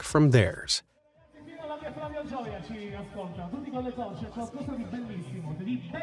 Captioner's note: speaking in foreign language